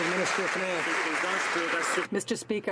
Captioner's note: some Applause